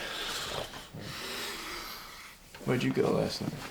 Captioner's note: breathes deeply